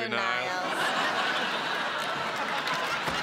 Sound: laughter

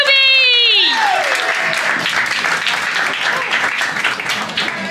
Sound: applause

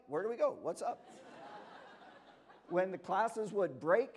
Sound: laughter

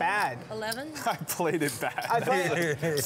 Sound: laughs

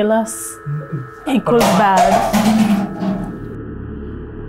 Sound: water bottle falls

